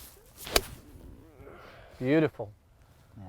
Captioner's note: club strikes